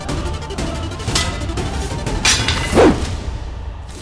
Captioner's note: clanging